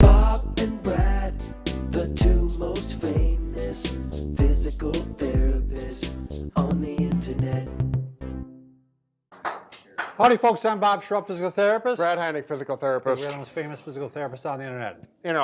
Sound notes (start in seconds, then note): 9.3 clapping